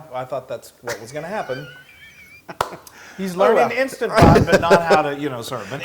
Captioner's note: laugh